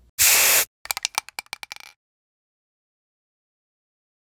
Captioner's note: paint spraying